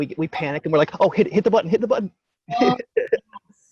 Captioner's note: laughs